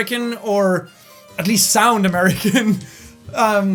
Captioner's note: giggles